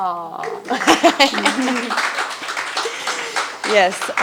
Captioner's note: attendees applauding